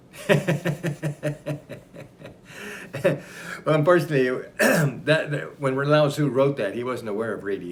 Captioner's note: laughs